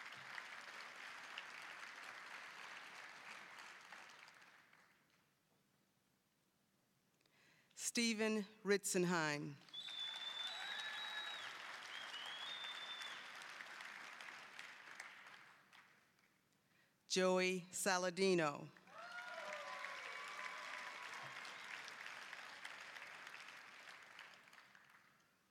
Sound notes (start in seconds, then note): 0.0 applause; 9.6 applause, whistling; 18.8 applause, cheering